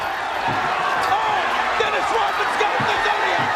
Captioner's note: crowd cheering